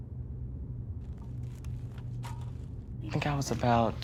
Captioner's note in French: bruits de pas